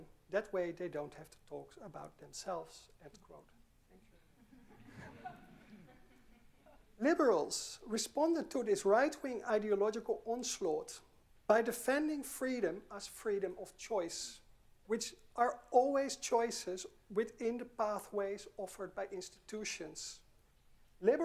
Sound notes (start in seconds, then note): 4.3 audience chuckling